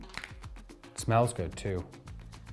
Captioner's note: bottle cracks